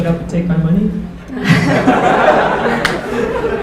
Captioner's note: laughter